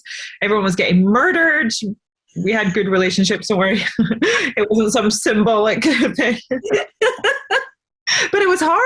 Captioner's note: laughs